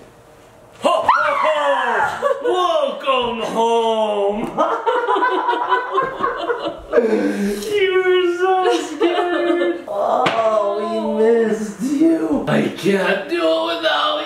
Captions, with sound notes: - Whoa! welcome home. (Laughing) - I was so scared - oh we missed you.i can't do without you,